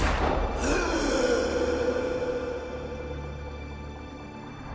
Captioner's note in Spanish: Disparo; Grito ahogado